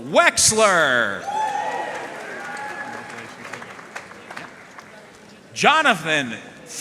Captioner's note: audience cheering and applauding